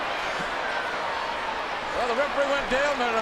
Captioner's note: audience chattering